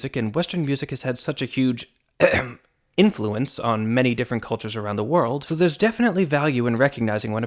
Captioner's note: ahem